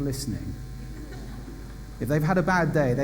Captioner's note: laughter